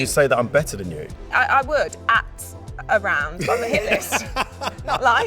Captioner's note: laughs